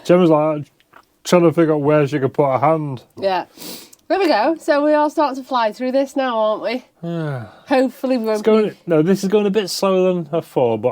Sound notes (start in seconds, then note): none